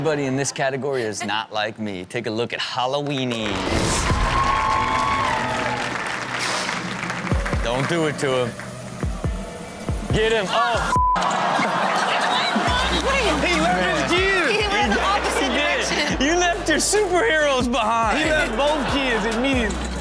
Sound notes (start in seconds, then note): 3.4 audience cheers; 3.8 upbeat music; 9.5 scary music plays; 11.2 audience reacts sadly